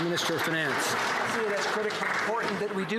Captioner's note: some Applause